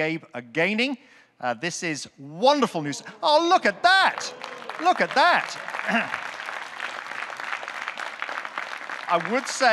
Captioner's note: audience clapping